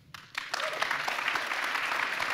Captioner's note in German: Applaus